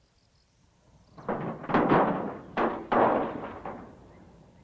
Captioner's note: clank